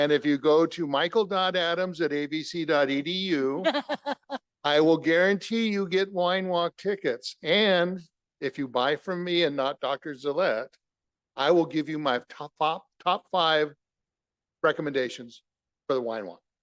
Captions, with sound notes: And if you go to michael.adams@avc.edu (laughter) I will guarantee you get Wine Walk tickets. And if you buy from me and not Dr. Zellet, I will give you my top five, top five recommendations for the Wine Walk.